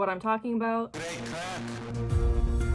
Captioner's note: megaphone; suspenseful music